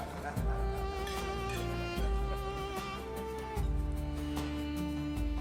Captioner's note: crowd cheers